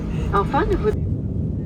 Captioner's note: french noises